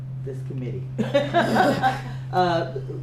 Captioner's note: laughter